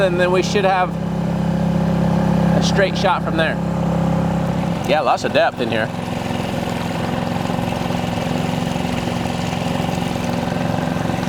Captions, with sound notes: and then we should have a straight shot from there. Yeah, lots of depth in here. (trolling motor purring)